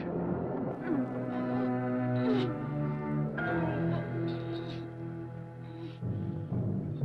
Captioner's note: suspenseful orchestral music; Lottie moaning